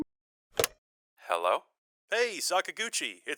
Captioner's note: phone receiver clicks